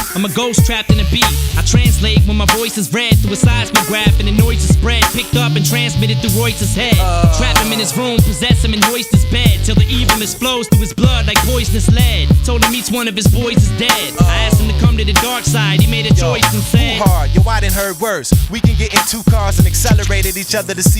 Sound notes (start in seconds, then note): 13.9 ohh